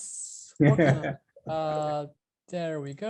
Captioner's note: laughing